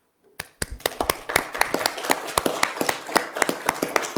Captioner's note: all applaud